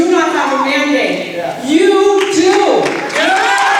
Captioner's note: applause